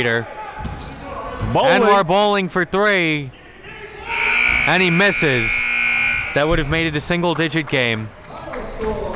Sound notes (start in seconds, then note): 4.1 buzzer dings; 9.0 applauding